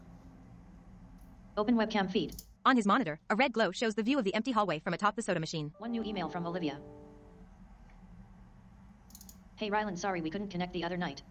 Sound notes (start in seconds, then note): 5.8 Outlook notification